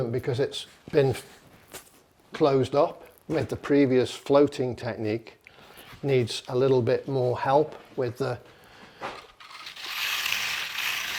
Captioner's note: scratching noises